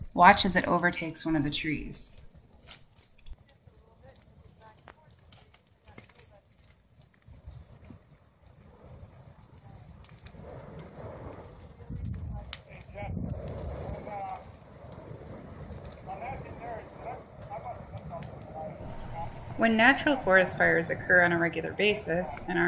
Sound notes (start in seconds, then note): 2.7 fire cracking; 3.3 background chattering